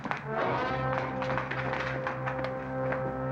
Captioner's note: boots scurrying; suspenseful music